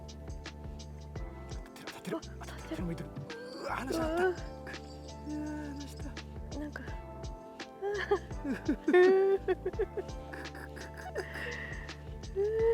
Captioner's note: laughs